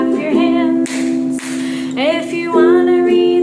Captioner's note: hands clapping